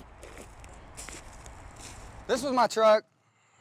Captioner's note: leaves rustling